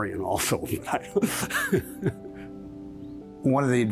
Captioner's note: chuckling